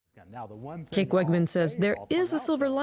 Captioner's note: voice-over